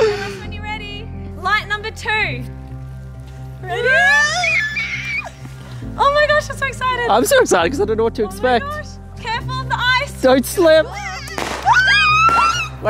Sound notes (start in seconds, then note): 0.0 laughing; 3.8 excited screams; 11.2 fireworks cracking